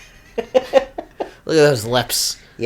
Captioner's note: laughs